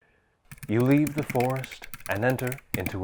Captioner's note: typing sounds